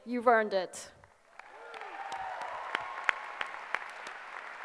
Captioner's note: applause